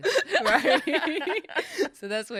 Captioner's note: laughs